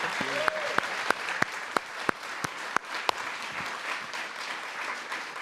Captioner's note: applause